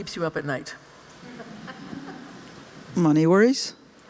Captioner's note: laughter